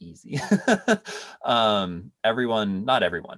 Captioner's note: laughs